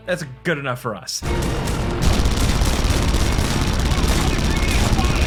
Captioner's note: guns firing